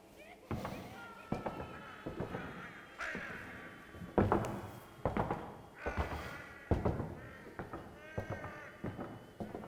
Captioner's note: footsteps